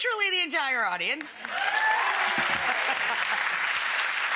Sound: audience cheering and applauding; Rachel chuckling

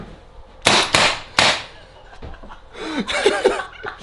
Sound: gun bangs; laugh

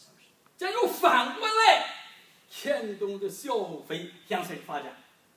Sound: speaking foreign language

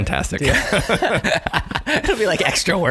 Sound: laughing

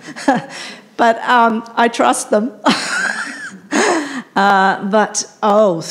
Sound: chuckles

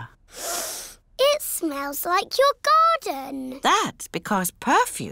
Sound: sniffs

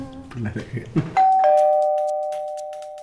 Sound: calling bell

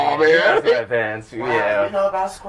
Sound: laughter

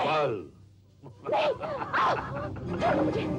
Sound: laughs

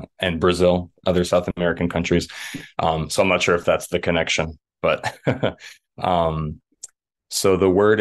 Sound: laughs

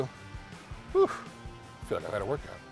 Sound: exclaiming

